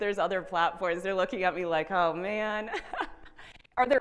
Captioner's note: chuckles